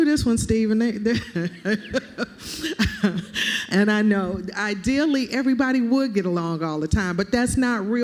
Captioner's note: laughter